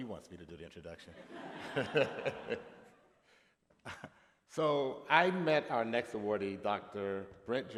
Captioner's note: laughter